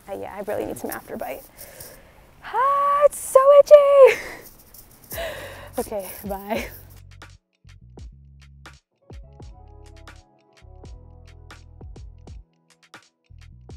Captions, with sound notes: Yeah, I really need some after bite. Aah, it's so itchy! (laughs) Okay, bye. (gentle upbeat music)